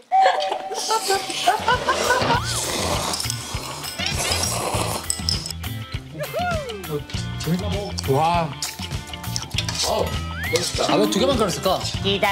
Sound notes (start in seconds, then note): 3.9 slurping noodles